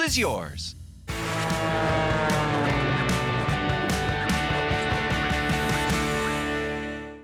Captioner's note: airplane whizzing; upbeat music